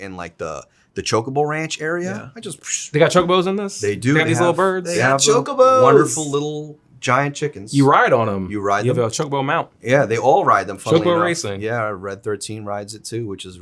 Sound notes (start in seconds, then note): 2.4 imitates whooshing